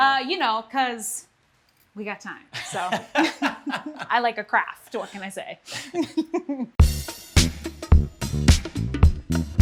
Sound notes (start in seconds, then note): 2.5 laughter; 5.7 laughter; 6.8 upbeat music